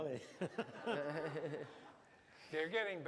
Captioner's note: laughter; non-english speech